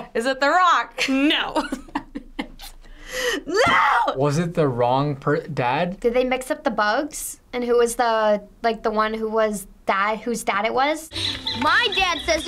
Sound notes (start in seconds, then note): 2.0 laughs